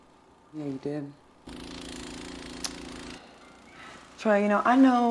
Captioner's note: snowblower whirls